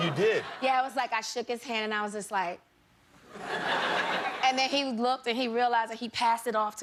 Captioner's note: laughter